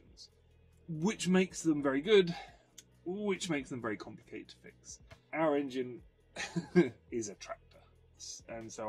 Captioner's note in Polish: śmiech